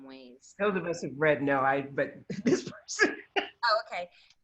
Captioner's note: laughs